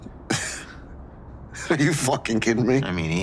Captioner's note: laughing